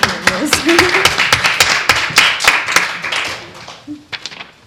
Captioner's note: audience applauding